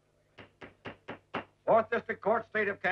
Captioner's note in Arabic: ضربات المطرقة